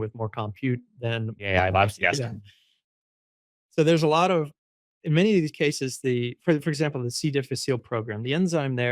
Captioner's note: laughs